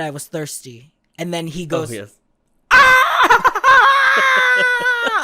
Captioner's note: screams